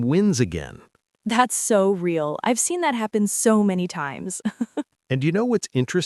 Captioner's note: laughs